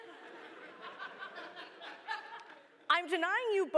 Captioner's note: laughter